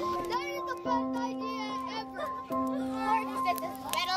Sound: chattering

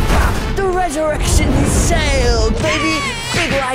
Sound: baby crying soundeffect

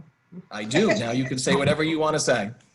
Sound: laughter

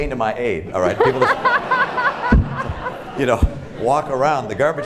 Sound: laughter

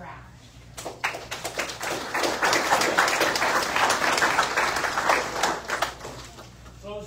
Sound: audience applauds

